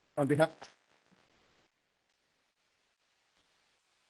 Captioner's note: audio gap